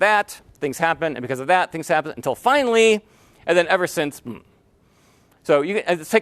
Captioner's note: hmm